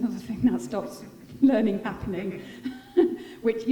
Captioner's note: laughing